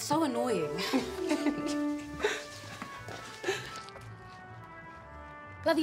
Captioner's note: laughing